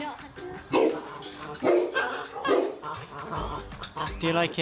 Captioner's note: dog barking